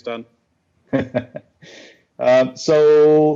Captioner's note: laughs